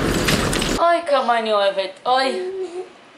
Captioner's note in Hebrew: רעש של פיצוץ